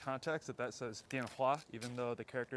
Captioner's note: Mandarin